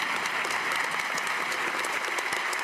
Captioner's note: cheers and applause